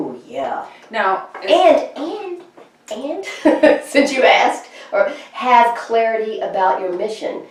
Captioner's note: chuckles